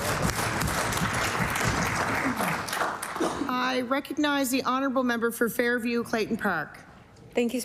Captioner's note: applause